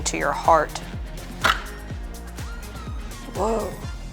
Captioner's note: door clicking